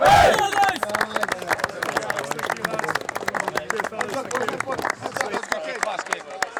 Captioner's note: claps